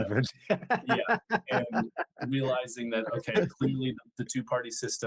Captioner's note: laughing